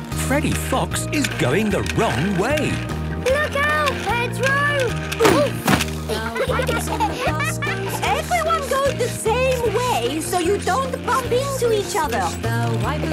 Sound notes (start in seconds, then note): 6.0 laughter